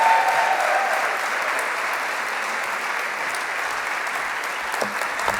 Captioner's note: applause